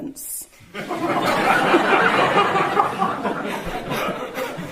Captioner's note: audience laughing